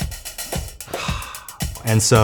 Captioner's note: sighs